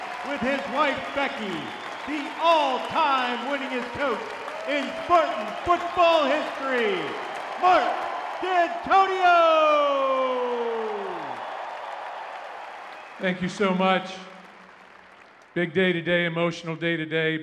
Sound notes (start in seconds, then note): 10.7 crowd cheering